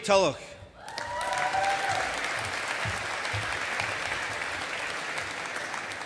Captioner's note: audience applauding